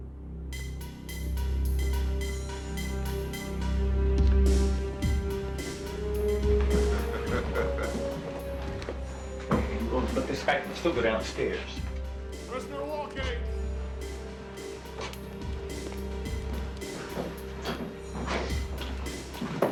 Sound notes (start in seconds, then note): 6.6 Justice laughing